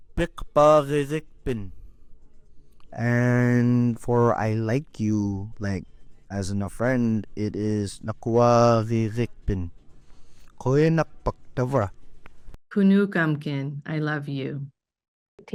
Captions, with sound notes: (member speaks in Inupiatun) And for "I like you," like as a friend, it is (speaks in Inupiatun). - (speaks in Alutiiq) "I love you."